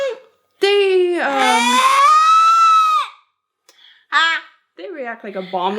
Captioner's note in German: schreit